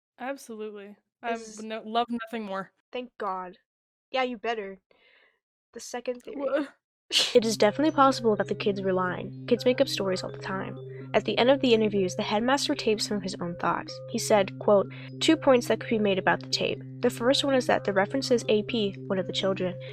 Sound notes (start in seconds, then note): 6.3 laughs